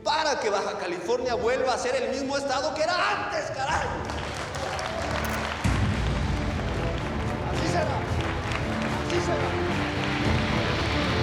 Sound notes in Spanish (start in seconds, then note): 7.6 aplausos